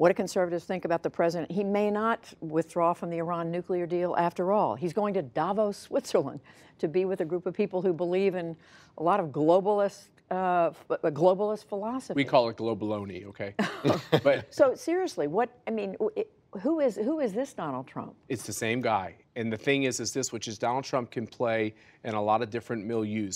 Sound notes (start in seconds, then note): 13.6 laughter